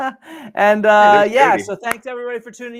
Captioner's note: laughing